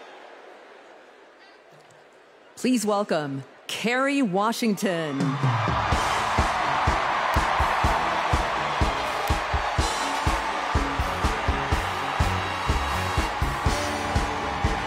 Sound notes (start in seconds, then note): 1.3 cheers and applause